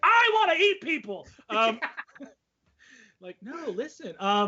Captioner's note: laughing loudly